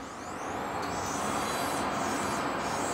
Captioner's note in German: Schleifgeräusche